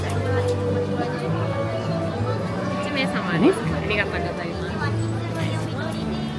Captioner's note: cast Member speaks in Japanese